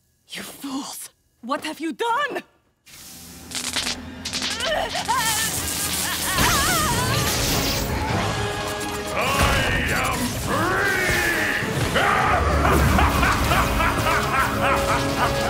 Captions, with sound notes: You fools! What have you done?! [groaning] I am free! [laughing]